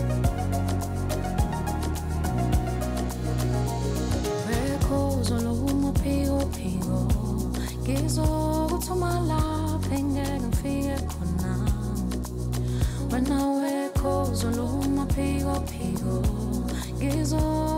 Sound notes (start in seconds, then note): 0.1 upbeat music; 4.9 foreign language